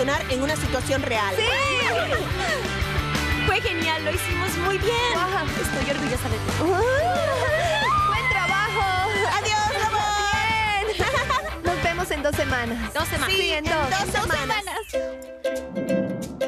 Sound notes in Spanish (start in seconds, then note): 2.3 gritos y aplausos; 10.7 toda gritando